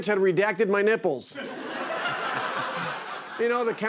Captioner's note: laughter